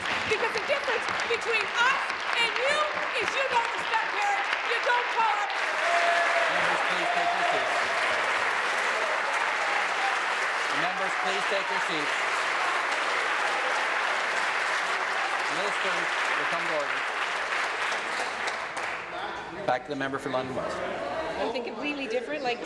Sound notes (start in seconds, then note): 4.4 applause; 11.9 applause